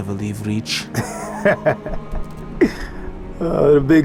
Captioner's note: laugh